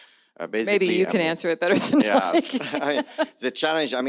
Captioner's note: laughs